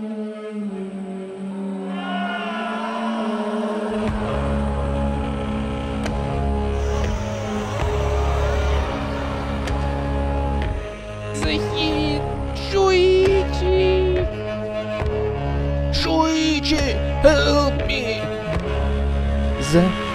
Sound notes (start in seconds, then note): 3.3 infernal screams